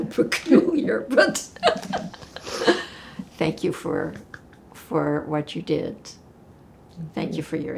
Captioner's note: laughing